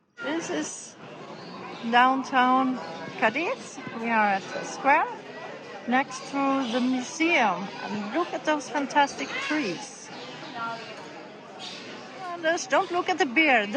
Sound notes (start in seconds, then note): 8.9 people and birds chatting